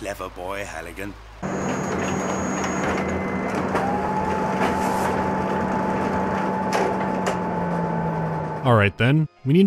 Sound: copy machine humming

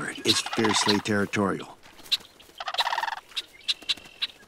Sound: birds both calling

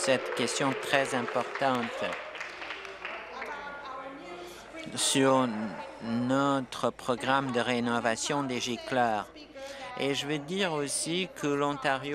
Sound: applause

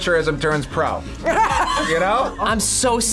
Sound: laughs

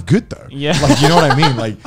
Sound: men laughing

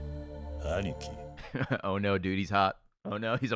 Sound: laughs

